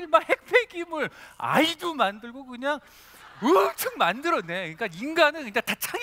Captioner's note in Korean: 웃음